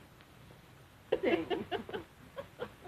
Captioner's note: chuckling